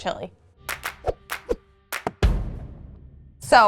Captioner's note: upbeat clapping; drum beating